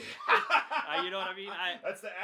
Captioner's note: laughs